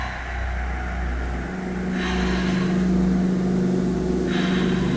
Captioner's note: heavy breathing